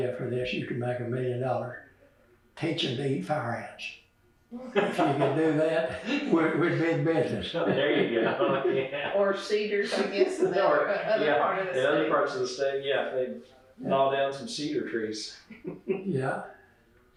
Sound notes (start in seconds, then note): 7.2 laughter